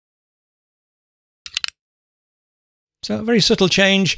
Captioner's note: click